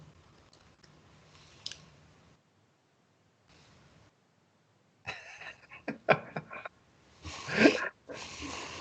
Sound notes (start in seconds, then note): 5.0 robin laughs